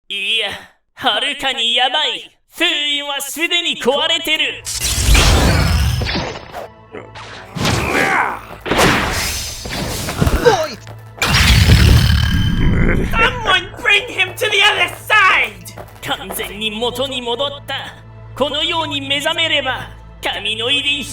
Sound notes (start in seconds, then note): 7.4 grunt; 13.0 Garmadon laughs